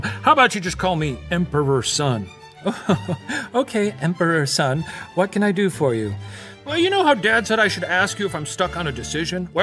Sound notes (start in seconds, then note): 2.6 laughs